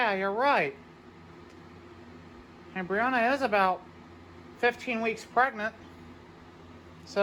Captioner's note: normal voice